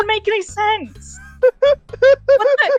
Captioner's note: laughter